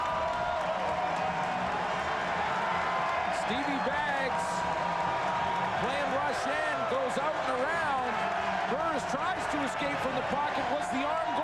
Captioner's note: cheers and applause